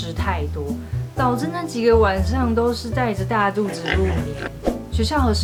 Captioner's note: laughs